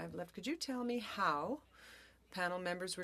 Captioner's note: speaking French